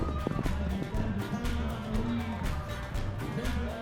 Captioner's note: sounds of hooves on dirt